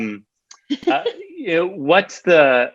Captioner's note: laughing